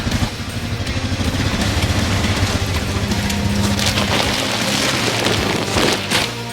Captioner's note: ATV springs squeak on steel ramps